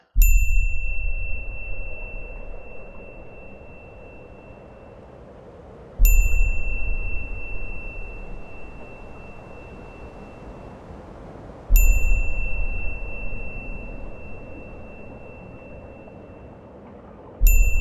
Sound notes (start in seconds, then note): 0.3 beep; 0.3 wind blowing; 5.8 beep; 5.8 wind blowing; 11.7 beep; 11.7 wind blowing; 17.4 beep; 17.4 wind blowing